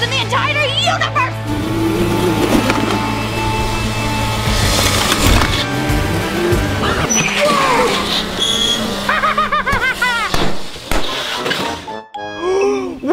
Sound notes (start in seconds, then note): 1.0 rock music playing; 7.2 tires screeching; 8.6 laughing evilly; 11.4 tire popping